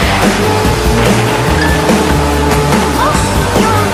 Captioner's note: crash!